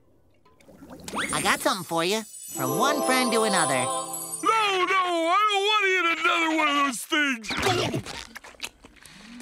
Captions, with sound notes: I got something for you. From one friend to another. No, no! I don’t want to eat another one of those things. [chewing]